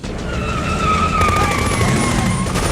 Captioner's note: tires screeching; machine gun firing